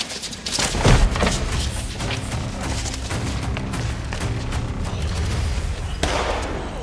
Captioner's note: fighters scuffling; footsteps thumping; suspenseful music; gun firing